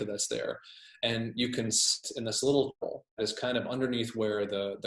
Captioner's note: murmurs